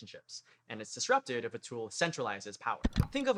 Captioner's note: click